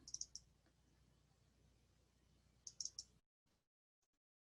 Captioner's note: mouse clicking